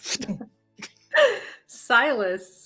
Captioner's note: imitates portal closing